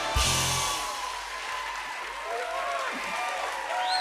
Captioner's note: cheers and applause